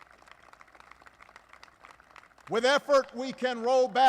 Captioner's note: applause